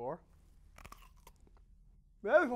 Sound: crunch

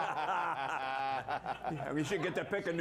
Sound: laughter

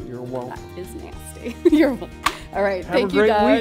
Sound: giggles

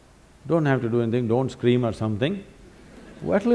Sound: laughter

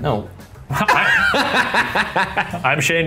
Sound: laughing

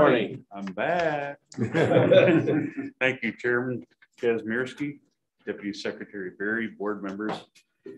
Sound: laughter

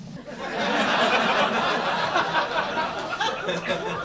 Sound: crowd laughs

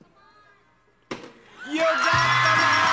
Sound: bell ringing; audience applauding

